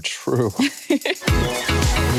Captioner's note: laughter; bright music